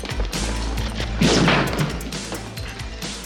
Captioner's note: gunshot